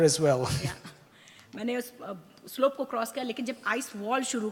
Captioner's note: speaks foreign language